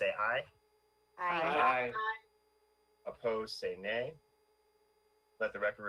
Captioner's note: in Unison